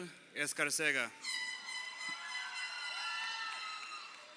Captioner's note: crowd cheering